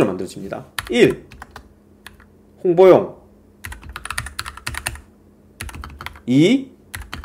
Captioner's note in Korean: 키보드 asmr